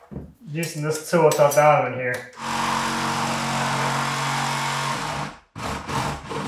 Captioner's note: machine whirring